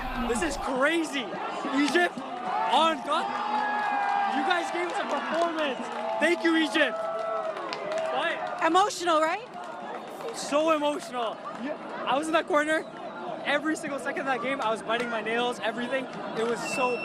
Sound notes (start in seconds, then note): 6.4 applause